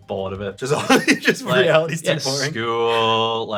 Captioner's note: laughs